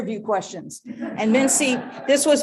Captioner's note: audience laughing